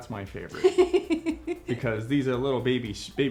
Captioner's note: laughing